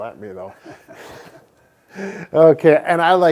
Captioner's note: laughs